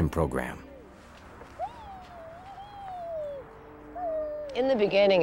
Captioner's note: music fades out; children playing